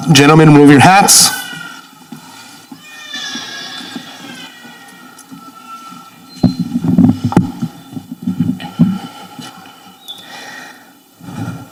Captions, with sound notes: Gentlemen, remove your hats. (baby crying)